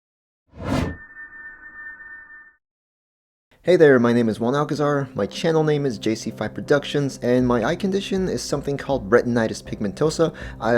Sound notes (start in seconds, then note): 0.6 whoosh followed by chime